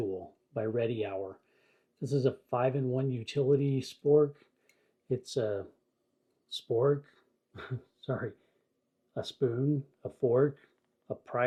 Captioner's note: laugh